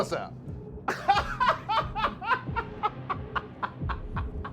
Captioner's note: laughing